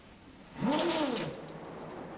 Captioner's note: whirring